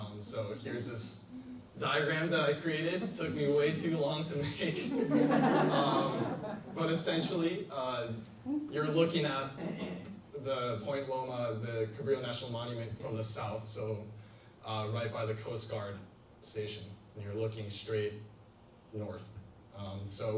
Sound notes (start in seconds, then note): 4.5 laughs; 4.5 audience laughs